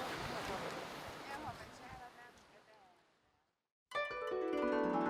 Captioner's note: people chattering; airy music